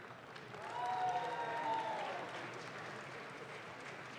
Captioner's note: audience claps